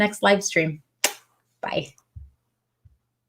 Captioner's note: smacks lips